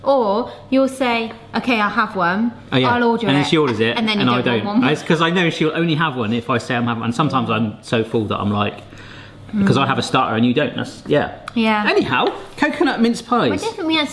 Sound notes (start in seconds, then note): none